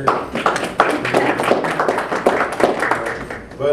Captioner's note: audience applause